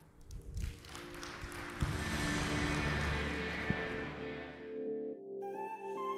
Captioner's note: audience applauding; bright music begins